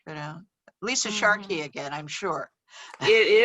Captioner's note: laughs